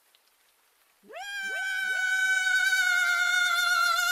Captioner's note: Joyce Screams in Agony